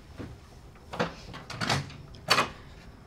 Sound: door opening

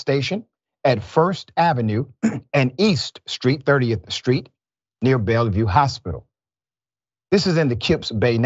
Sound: cough

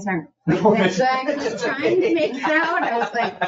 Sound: people laugh

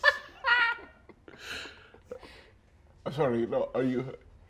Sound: players laughing

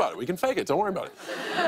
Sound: laughter

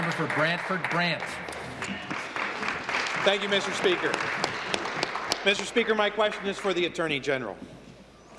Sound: applause

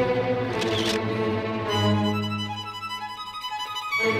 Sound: camera shutter snaps

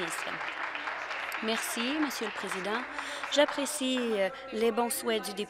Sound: applause

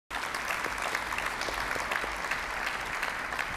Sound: applause

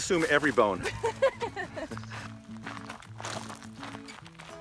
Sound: Lindsey laughs

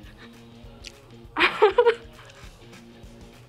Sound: laughs

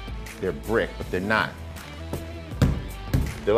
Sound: soft thudding

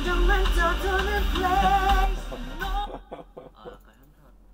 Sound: haha

